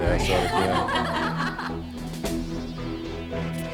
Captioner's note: all laughing; tense music continues